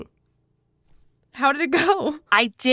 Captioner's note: chuckles